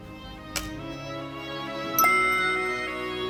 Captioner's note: scratching